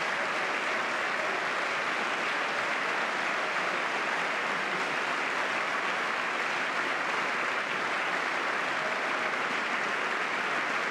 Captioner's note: applause